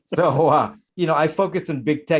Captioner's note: laughing